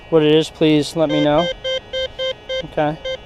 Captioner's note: detector beeps